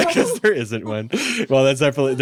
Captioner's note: laughs